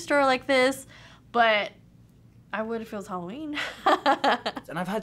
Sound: chuckles

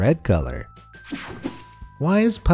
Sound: air whooshing

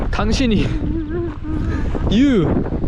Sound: just laughs

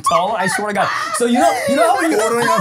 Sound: laughing

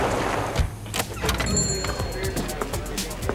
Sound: bell jingles

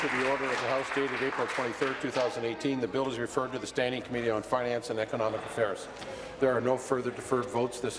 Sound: applause

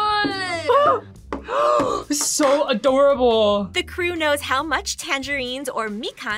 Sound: gasps

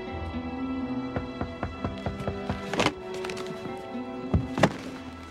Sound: knocking on door

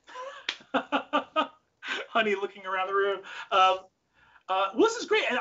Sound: laughs

